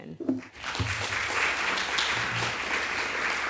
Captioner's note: applause